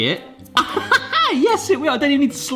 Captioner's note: laughing